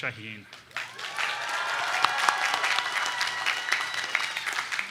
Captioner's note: audience cheering